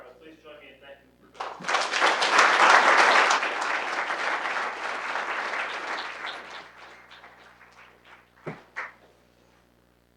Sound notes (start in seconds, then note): 1.3 applause drowns out; 1.3 audience applauding